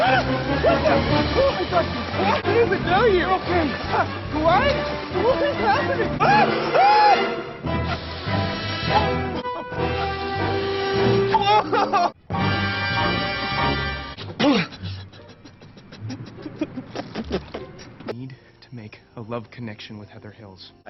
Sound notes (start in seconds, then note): 0.0 scream; 11.7 screaming